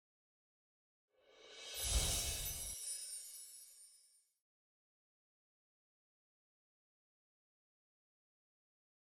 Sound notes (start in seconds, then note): 1.4 air swooshing; 1.6 bells chiming